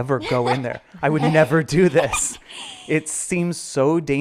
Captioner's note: laughing